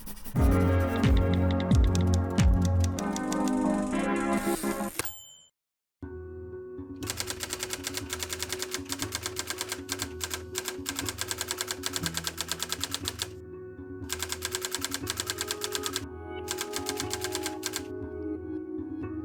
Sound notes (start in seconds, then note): 5.0 typewriter dings; 7.0 typewriter sounds; 14.5 typewriter sounds